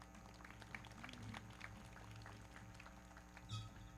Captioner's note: everybody clapping